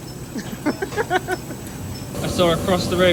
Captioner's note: laughing